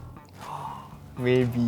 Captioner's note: gasp